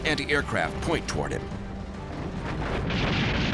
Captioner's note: flak fire